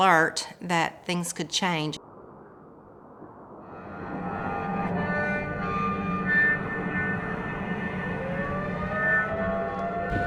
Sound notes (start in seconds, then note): 3.6 eerie music; 3.9 sirens